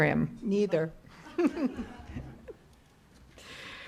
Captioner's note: laughter